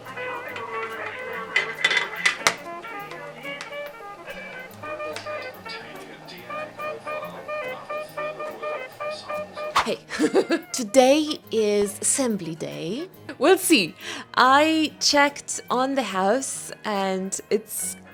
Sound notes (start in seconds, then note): 9.7 woosh; 10.3 laughs